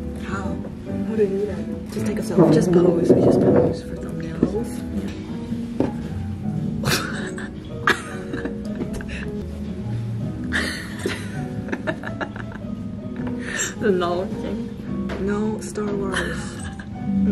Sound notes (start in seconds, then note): 10.5 creepy or cute laughter?? you decide